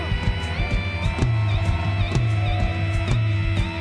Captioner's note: cheers, whistles, & applause